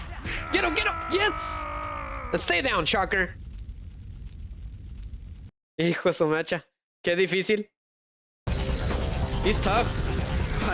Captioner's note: screaming